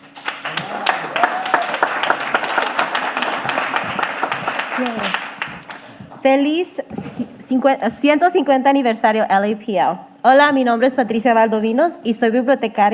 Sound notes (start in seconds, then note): 0.0 audience applauding; 5.0 speaking in foreign language